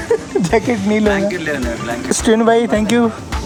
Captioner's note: laughing